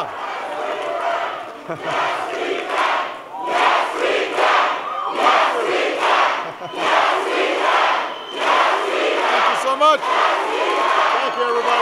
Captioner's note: audience chanting "yes, we can"